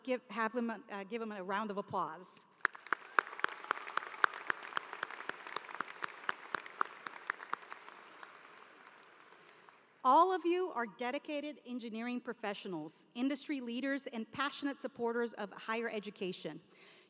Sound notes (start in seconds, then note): 6.9 applause